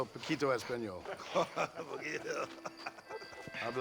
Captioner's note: laughing